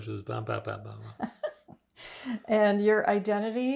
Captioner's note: laughing